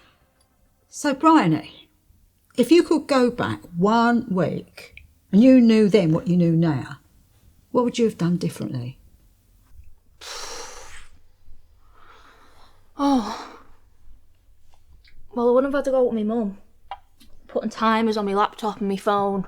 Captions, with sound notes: - So, Bryony, if you could go back one week, and you knew then what you knew now, what would you have done differently? (sighing) - Oh. Well, I wouldn't have had to go with my mum. Putting timers on my laptop and my phone.